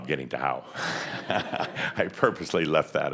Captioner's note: some chuckles